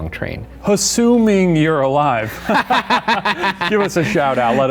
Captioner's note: both laugh